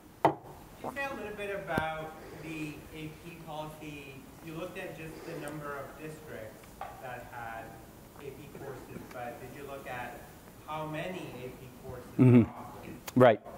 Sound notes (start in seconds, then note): 1.3 voiceover